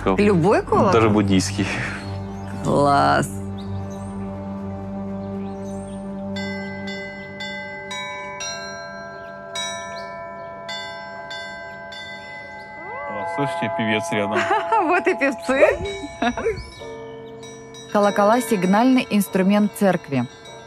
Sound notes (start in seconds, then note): 7.2 bell rings; 14.3 laughter